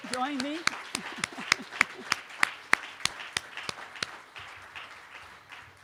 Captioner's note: applause